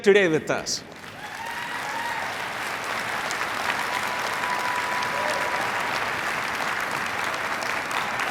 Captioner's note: applause/cheering